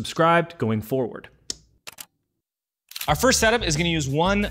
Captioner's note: light switch clicking